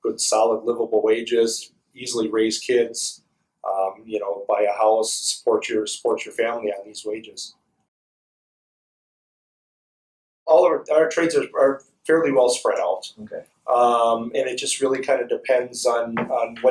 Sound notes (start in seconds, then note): 7.9 silence